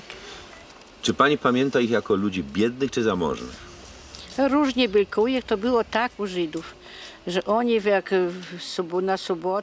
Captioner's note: speaking Polish